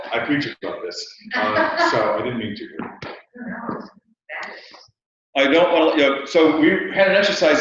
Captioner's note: laugh